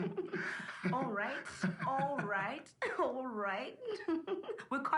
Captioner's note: laughs; laughs